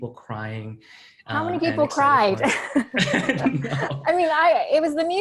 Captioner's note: laughing